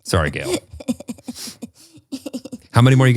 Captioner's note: laughs